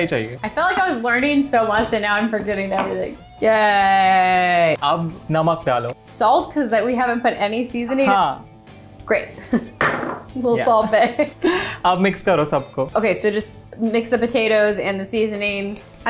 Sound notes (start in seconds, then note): 4.8 speaking in Hindi; 8.1 speaking in Hindi; 11.3 speaking in Hindi